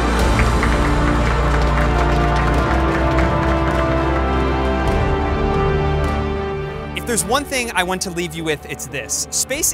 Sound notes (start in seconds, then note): 0.1 dramatic music continues; 1.8 operators applauding; 5.8 dramatic music continues